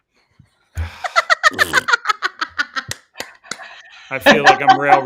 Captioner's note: laughing